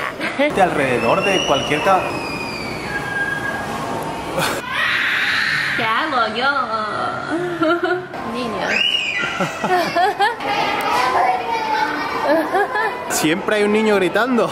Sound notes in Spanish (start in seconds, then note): 2.0 gritos de niño; 4.6 más gritos de niño; 8.6 más y más gritos de niños